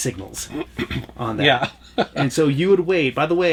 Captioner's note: laughs